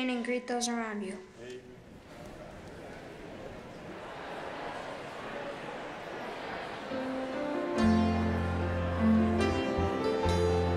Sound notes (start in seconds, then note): 1.3 congregation chattering in background; 7.1 instrumental music